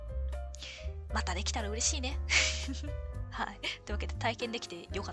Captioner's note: laughs